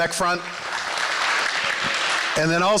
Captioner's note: applause